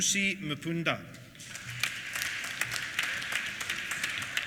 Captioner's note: applause